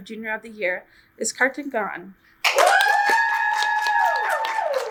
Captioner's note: audience cheers